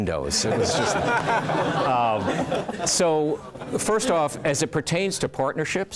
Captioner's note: laugh